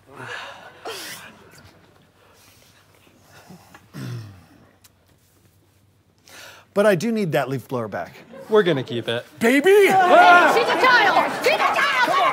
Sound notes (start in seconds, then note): 0.1 sighs; 3.2 whispered; 3.8 clears throat